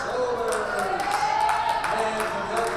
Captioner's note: crowd cheers